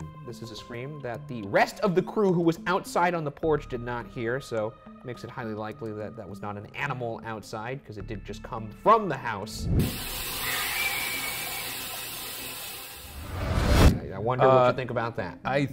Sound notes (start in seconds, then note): 9.9 static crackling; 10.3 entity screams